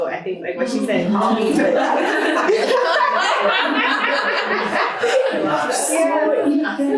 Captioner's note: audience and panelists laughing